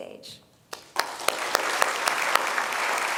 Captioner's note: applause